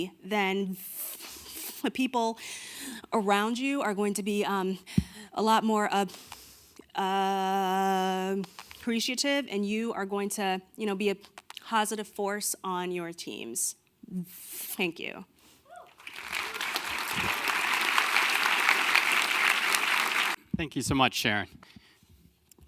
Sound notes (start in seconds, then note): 15.9 audience clapping